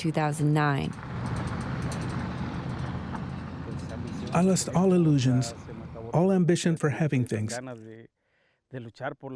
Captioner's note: through translator